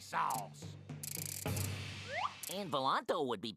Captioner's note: whirring